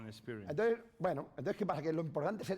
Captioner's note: speaking spanish